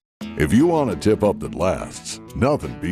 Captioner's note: voiceover